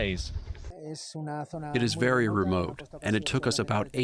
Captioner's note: through translator